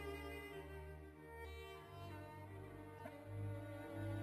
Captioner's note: none